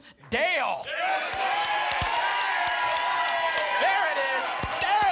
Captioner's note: applause and cheering